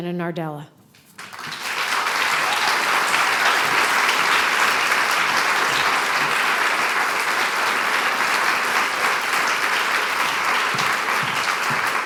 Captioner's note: applause